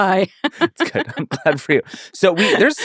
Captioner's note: laughing